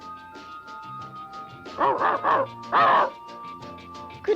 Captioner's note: Arrow barks